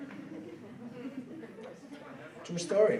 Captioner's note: laughing